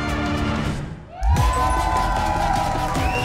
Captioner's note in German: Jubel, Applaus